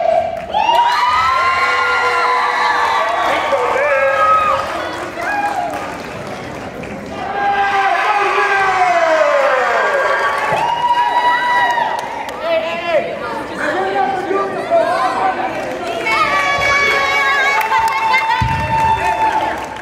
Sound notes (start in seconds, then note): 0.0 cheering